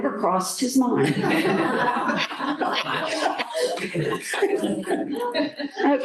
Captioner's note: laughter